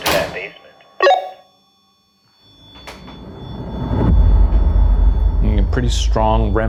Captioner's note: REM-Pod beeping; eerie music